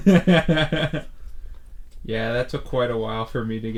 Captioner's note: Thomas laughs